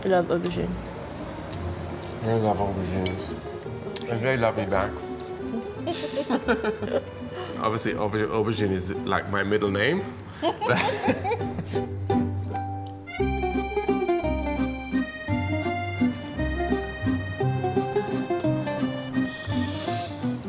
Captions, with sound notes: I love aubergine. - I love aubergines. And they love me back. (both laughing) Obviously, aubergine is like my middle name. (both laughing) (upbeat music)